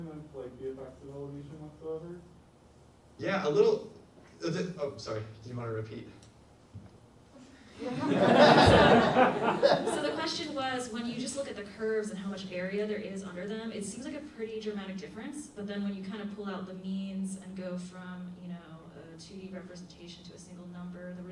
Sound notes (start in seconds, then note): 7.8 audience laughs